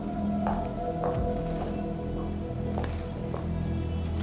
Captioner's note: heels clopping